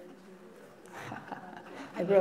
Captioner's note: laughter